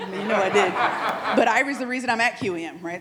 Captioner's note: attendees laughing